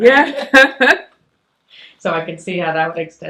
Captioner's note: chuckles